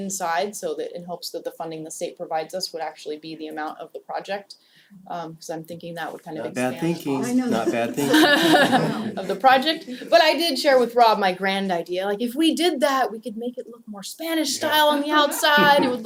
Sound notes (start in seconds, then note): 7.1 laugh